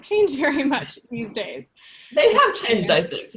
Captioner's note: laughs